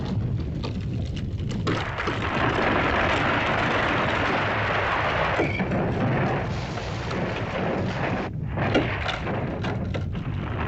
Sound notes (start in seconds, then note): 0.0 rocks clattering; 0.0 volcano rumbles; 1.6 rock crashing; 8.2 rumbling sound; 10.4 crashing sound